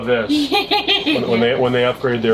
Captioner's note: laughter